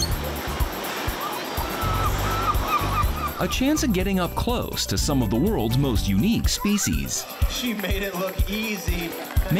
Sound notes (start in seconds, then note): 0.0 water splashing and seagulls squawking; 9.3 audience applauds